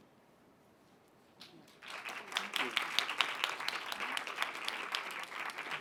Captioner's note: applause